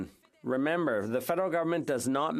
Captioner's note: speaking French